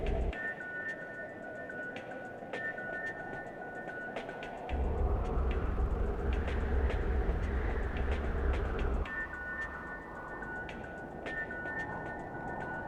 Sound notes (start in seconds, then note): 8.2 wind blowing